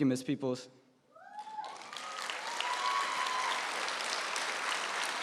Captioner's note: applause